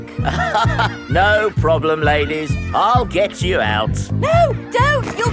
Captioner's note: chuckles